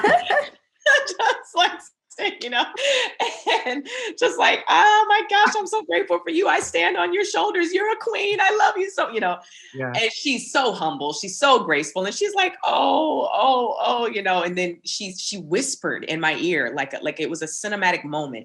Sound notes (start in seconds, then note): 2.6 laughing